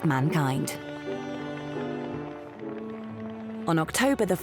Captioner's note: crowd applauds